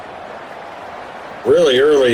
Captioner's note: crowd Noises